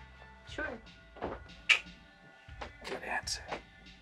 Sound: he makes a clicking sound

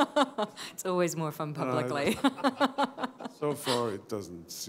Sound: laughter

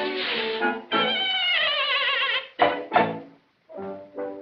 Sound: neighs

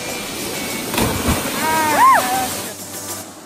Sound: splashing

